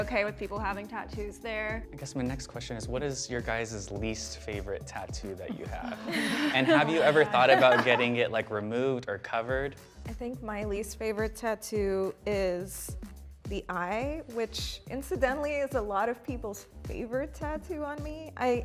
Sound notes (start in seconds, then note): 5.5 laughter